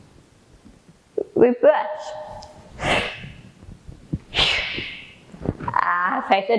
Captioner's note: exhales